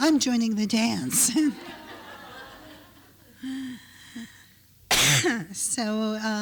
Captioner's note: laughter